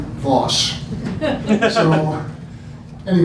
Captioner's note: laughing